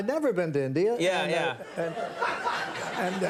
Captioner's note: audience laughing